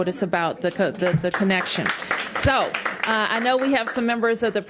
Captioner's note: applause